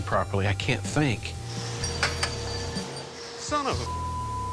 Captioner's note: metal clatters